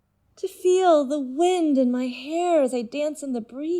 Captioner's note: none